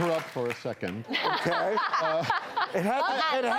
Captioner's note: laughing